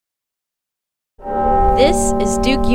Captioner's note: tower bell ringing